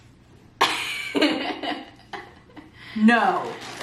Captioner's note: giggles